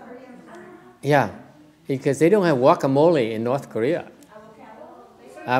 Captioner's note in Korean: 청중에서 얘기 중